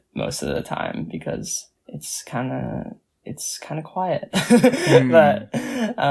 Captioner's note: laughs